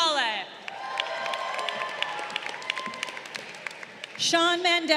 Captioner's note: crowd cheering